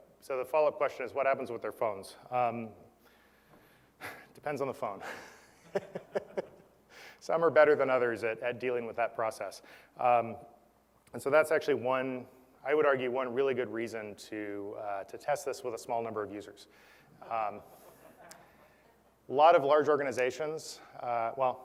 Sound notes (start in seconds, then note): 5.0 laugh; 17.7 laugh